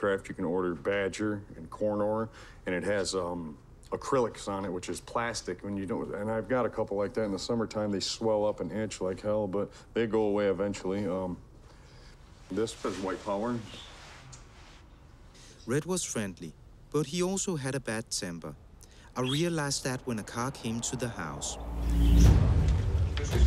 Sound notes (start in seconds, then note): 19.2 whistles; 21.5 belligerent music; 23.2 speaks in Danish